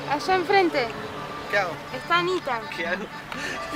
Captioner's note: laughs